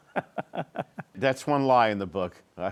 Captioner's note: laughs